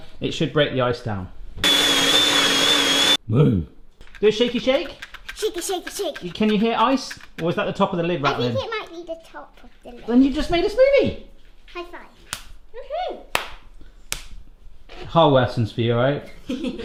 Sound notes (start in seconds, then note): 13.3 clapping